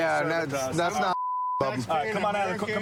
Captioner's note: chatter